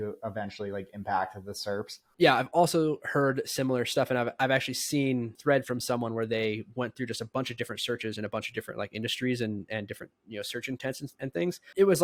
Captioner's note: speaking